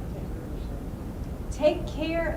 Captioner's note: voiceover